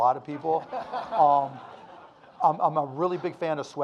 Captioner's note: audience laughing